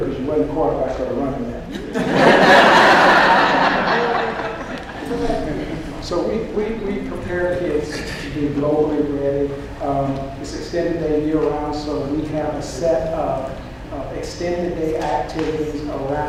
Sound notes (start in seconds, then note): 1.6 laughter